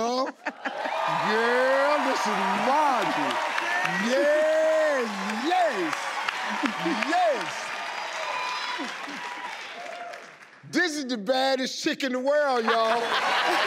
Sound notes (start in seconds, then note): 3.5 crowd cheers; 12.6 crowd laughs